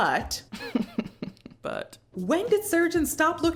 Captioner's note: laughing